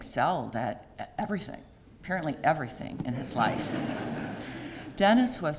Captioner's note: laugh